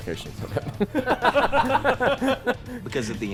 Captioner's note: laughter